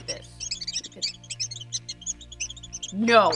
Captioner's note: squeaking